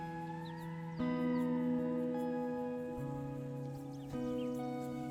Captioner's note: birds chirping